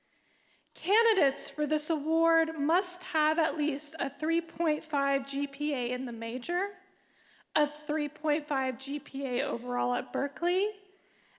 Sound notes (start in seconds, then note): none